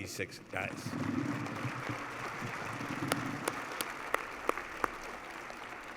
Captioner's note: applause